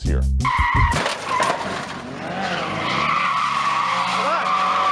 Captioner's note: car tires screeching